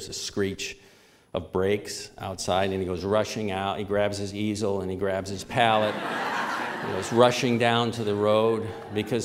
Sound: laughter

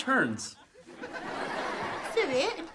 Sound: laughing

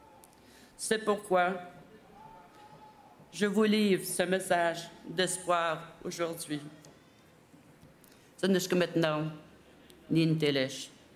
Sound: speaking French

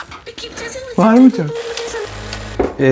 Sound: giggling

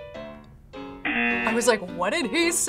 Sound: buzzer rings

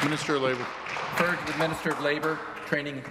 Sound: applause

